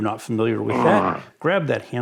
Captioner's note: monster grunting